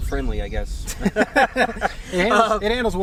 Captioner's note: all laughing